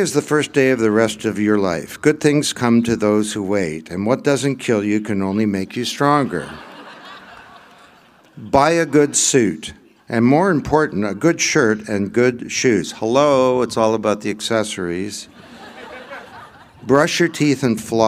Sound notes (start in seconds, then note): 6.2 laughter